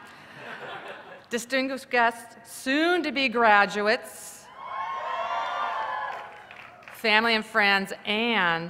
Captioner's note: laughter; cheers